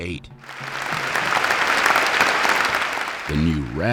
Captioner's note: audience applauding